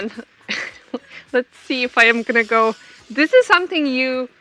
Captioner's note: laughs